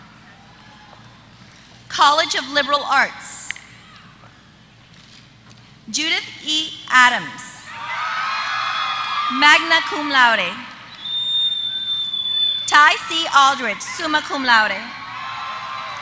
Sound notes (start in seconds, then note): 7.3 applause